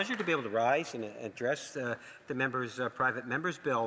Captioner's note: some Applause